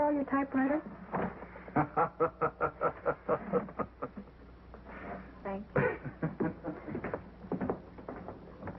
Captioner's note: laughter